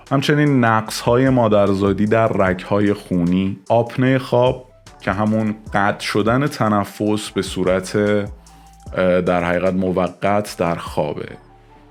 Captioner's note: interruption of breathing